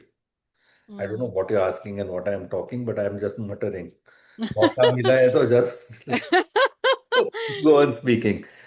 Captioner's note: laughter